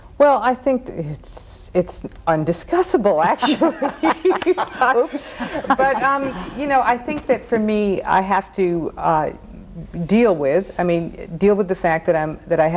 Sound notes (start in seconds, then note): 3.3 laughing